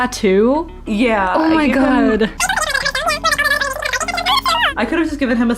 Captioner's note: surely talking, fast-forwarded